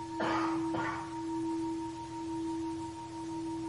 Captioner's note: coughing